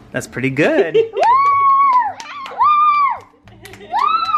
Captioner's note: cheering